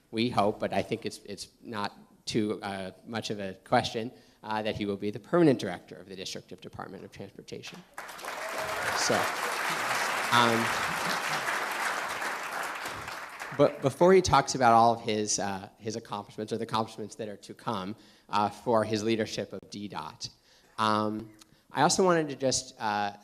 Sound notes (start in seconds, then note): 7.9 cheers and applause